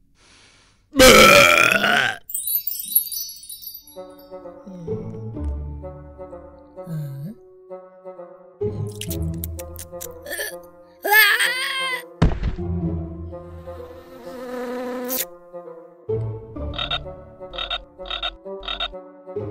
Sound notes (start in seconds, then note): 0.9 belches; 2.2 magical ringing; 4.4 funky music; 8.9 slurping; 9.7 choking; 13.6 bee buzzing; 18.6 croaking